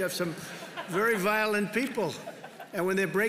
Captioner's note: laughter